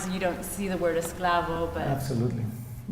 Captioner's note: non-english speech